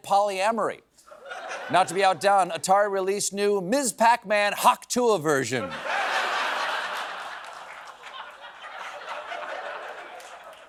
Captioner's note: laughter